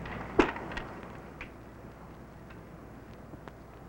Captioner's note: package thuds